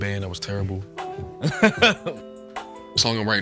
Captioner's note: Jylil laughing